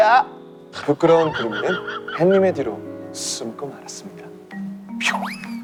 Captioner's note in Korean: 음소거 웃으며